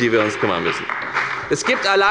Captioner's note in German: Beifall bei der FDP